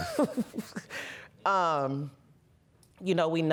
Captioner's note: laughs